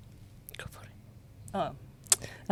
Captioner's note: whispers